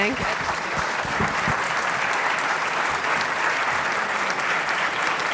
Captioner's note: voiceover; applause